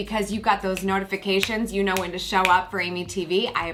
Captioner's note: snaps fingers